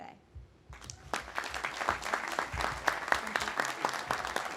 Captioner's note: audience applauding